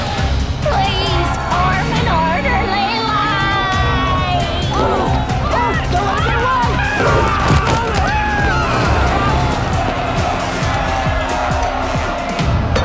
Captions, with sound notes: Please form an orderly line! Don't let him get away! [screaming, yelling]